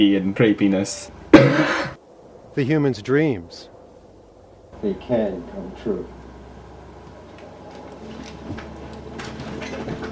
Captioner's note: coughs